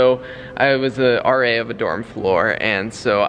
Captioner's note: none